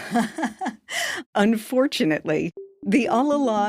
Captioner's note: laughs